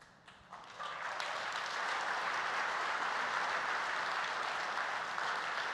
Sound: applause

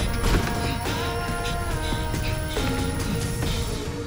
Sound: alarm ringing

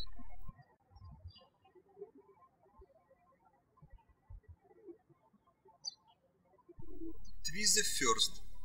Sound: birds chirping

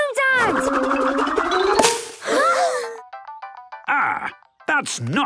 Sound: all gasping

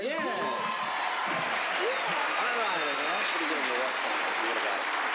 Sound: applauding

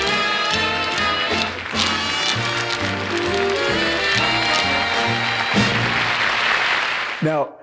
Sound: applause

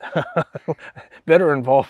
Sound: laughs

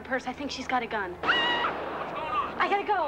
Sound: person screams; gun roars

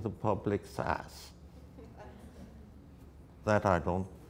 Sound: audience laughter

